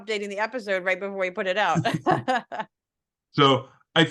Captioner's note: laugh